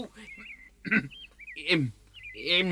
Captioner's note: clears throat